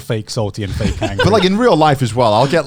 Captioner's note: laughs